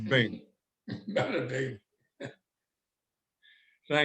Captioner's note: chuckles